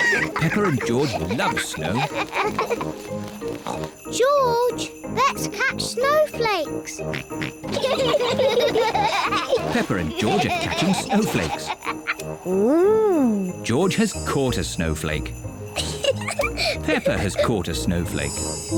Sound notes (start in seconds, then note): 0.0 both giggle; 3.6 snorts; 7.0 both giggle; 7.1 snorts; 15.7 giggles